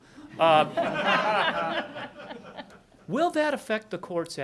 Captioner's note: audience laughing